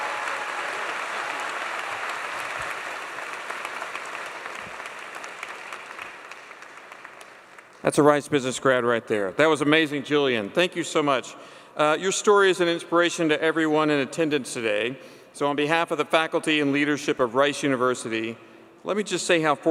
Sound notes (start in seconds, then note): 3.9 applause